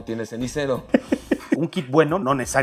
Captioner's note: laughter